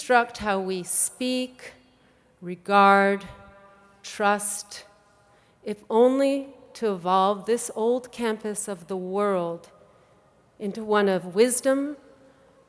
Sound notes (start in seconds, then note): none